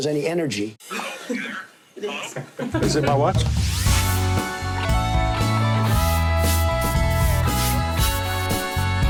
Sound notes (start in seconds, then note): 2.0 laughing; 5.2 rock music